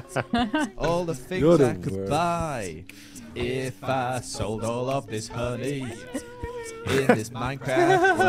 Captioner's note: group laughing